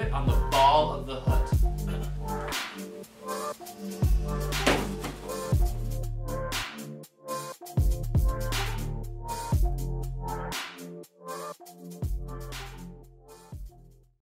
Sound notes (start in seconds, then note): 1.8 clears throat; 4.6 kicking bag; 6.5 upbeat music